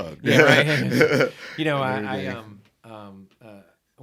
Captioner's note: laughed